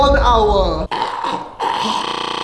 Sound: chokes cutely

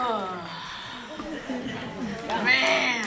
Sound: laugh

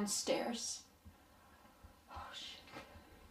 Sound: silence

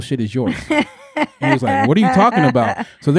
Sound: laughing

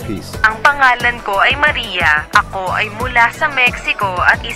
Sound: speaking foreign language

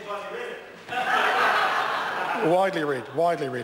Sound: members laugh

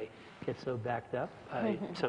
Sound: laugh

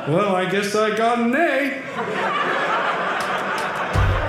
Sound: audience laughing

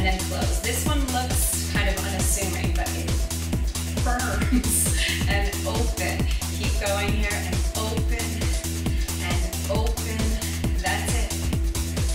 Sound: giggle

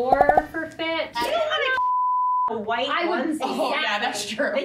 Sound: beep

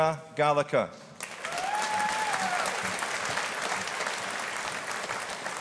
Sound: audience applauding

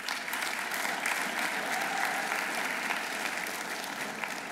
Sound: audience applauding

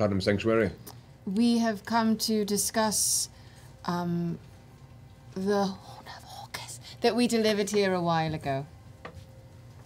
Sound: whispers

